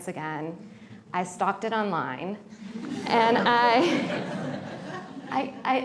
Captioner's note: laughter